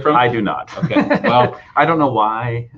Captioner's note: laughing